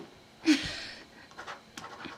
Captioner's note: giggles